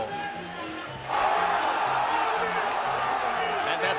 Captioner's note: all cheering